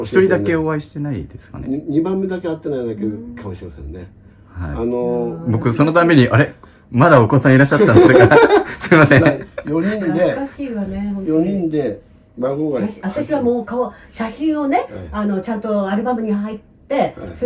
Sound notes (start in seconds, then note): 7.8 laugh